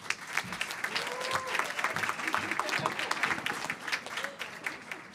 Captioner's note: applause